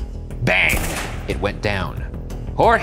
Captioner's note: gunshot snapping